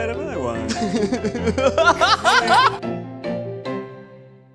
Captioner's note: laughs